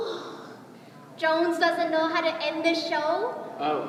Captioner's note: sighs